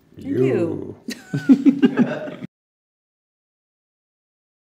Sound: laughing

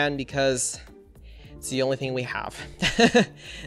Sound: laughs

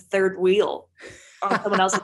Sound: laughing

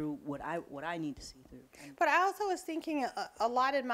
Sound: none

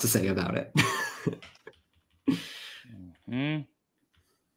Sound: laughs

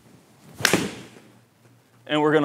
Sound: ball thuds

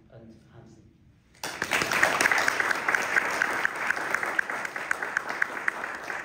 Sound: applause

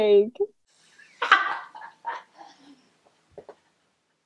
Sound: laughs

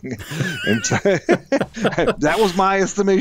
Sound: both laughing

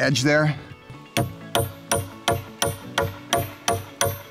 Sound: banging pipe

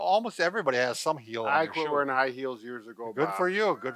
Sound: laughs

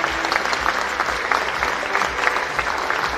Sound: cheering and Applause

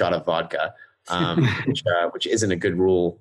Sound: laughing

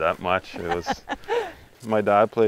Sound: laughing

